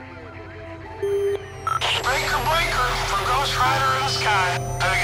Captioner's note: voice on radio